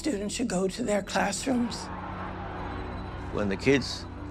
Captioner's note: crowd shouting